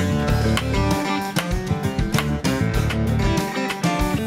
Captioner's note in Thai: เสียงตีเหล็ก